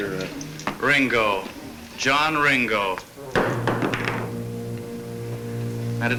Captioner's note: glass thuds